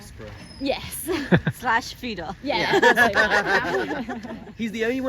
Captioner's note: laughter